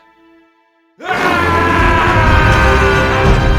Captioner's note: yelling; dramatic, adventurous music